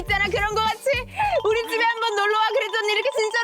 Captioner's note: rapid-fire talking sound effect